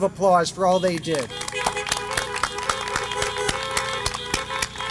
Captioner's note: applause